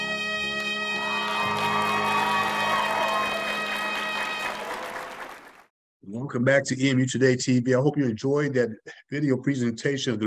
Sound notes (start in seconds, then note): 0.8 crowd cheering